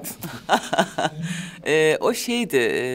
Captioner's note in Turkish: Gülüyor